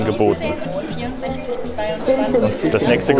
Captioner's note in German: Murmelndes Stimmengewirr